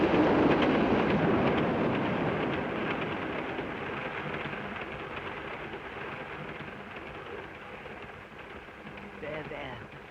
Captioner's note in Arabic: صوت خشخشة القطار